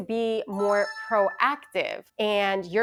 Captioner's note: chimes ringing